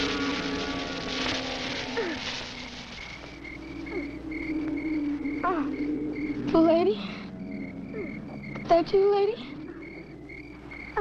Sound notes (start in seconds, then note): 1.9 boy grunts